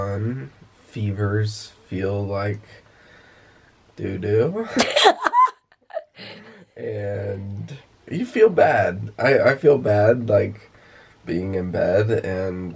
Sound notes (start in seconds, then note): 4.7 laughs